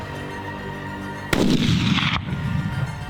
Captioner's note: gunshot